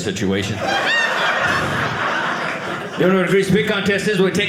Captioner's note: audience laughing